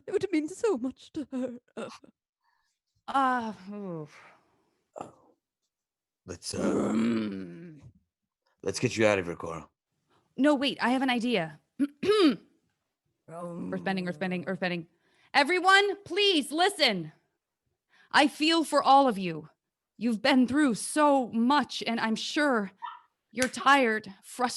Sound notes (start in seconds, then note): 6.4 groans; 12.1 clears throat